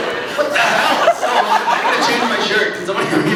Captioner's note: laughs